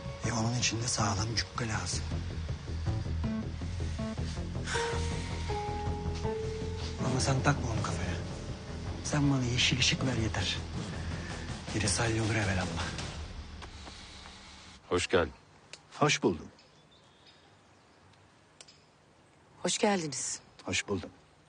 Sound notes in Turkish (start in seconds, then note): 3.5 Mert nefes verir; 13.2 gerilim müziği biter